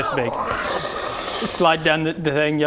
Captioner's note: subtle fat lizard noises